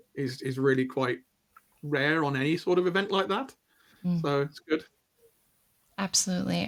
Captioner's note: hums agreement